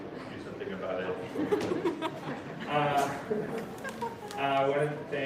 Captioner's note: laughter